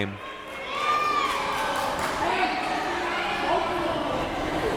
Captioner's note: crowd members shouting